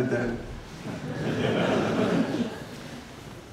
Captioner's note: laughter